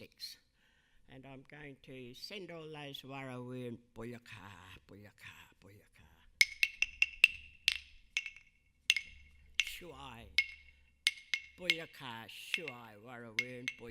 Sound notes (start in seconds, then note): 3.8 speaking in a foreign language; 6.4 sticks tapping; 9.7 speaking in a foreign language